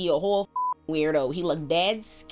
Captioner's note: beep